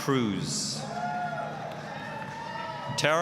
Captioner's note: applause, cheering